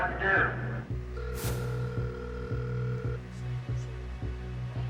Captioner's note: line ringing